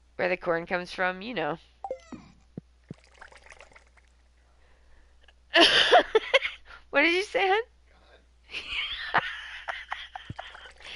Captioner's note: laughing